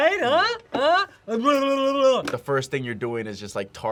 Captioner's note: babbles